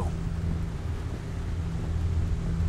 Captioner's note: none